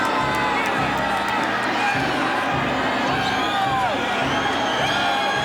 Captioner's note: audience cheering